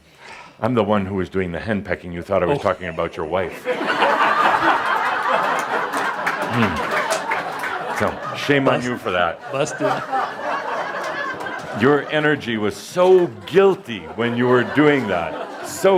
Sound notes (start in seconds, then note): 3.9 lots of laughter; 13.5 laughter